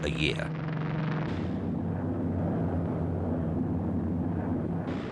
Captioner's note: plane roaring